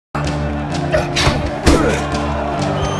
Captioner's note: grunting; audience applauding, applauding